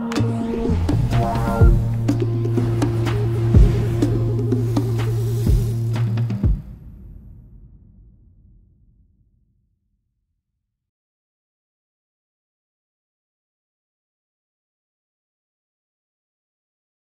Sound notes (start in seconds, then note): 0.2 whooshing; 4.2 sizzling